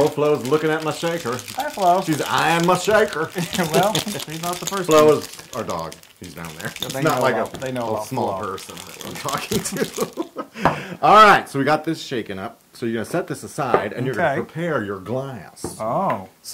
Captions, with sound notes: Flo's looking at my shaker. >> Hi Flo. >> She's eyeing my shaker. >> Well, she's not the first one. Flo is our dog. He's down there. >> They know about Flo. >> It's not like a small person that I'm talking to. [LAUGH] All right, so we've got this shaken up. So, you're going to set this aside. >> Okay. >> And you're going to prepare your glass.